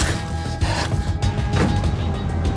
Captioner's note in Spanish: Sonido al abrir y cerrar la puerta